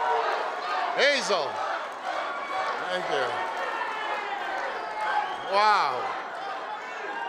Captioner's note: applause and cheering